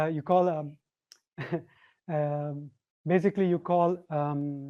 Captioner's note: scoffs